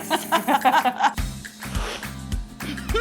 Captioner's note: laughing; laughing; slurping